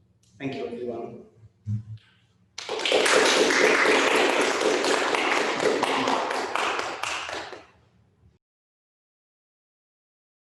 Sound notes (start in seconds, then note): 2.5 all clapping